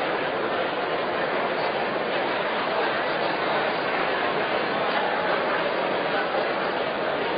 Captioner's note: random chatter